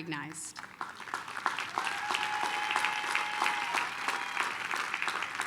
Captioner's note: applause, cheering